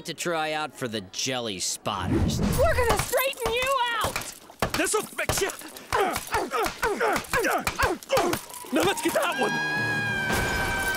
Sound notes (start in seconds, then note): 5.9 grunting; 8.1 screaming